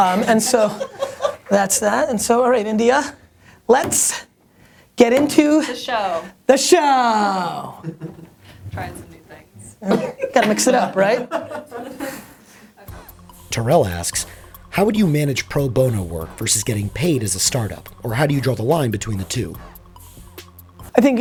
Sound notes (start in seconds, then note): 0.0 laughter; 9.8 laughter; 13.8 voiceover